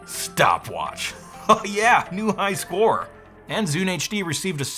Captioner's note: laughs